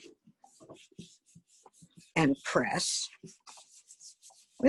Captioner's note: paper rubbing